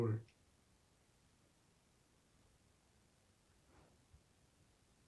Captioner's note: pauses 6 seconds